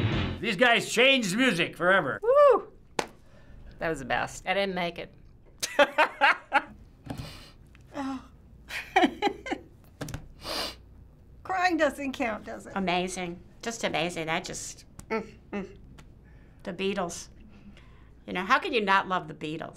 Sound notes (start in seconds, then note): 5.9 laughing; 7.1 sniffling; 8.3 laughing; 15.1 humming